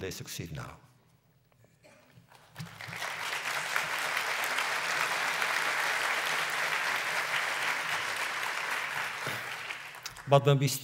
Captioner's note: applause